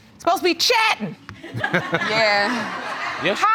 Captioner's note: audience laughs